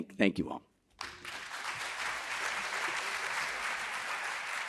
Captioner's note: audience applauding